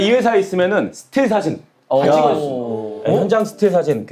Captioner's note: ohhh